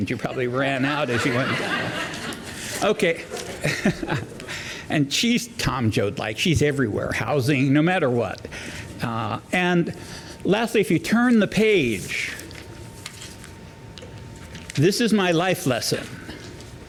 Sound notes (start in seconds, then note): 0.1 laughter